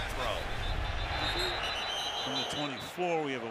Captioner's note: whistle